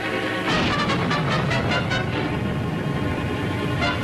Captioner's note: suspenseful music continues; thunder booms